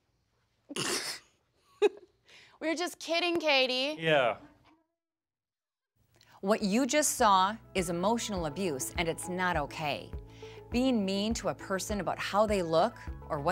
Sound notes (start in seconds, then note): 0.8 scoffs